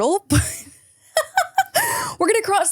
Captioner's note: laughs